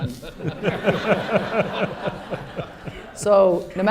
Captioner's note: laughter